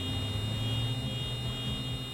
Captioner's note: beeping